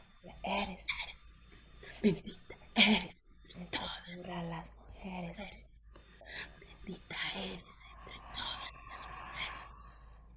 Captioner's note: breathing, whispering